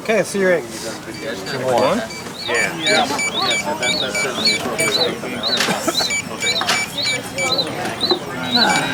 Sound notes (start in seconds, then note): 0.1 background talking; 2.8 beeping